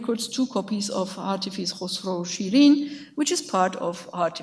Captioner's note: speaks in a foreign language